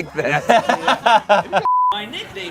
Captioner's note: group laughs